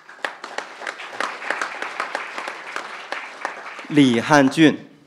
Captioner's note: crowd applauding